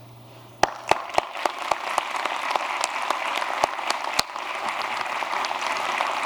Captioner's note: applause